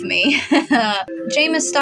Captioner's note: demented Chuckle